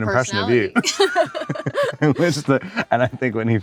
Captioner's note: both laugh